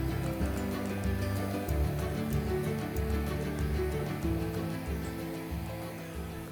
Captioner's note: gentle thrilling music; blower whooshing